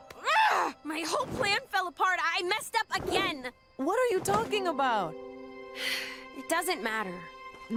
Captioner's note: sigh